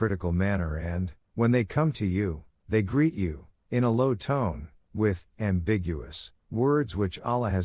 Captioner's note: in a low tone